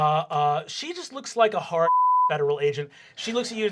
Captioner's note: beep